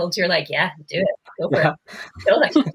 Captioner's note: laughing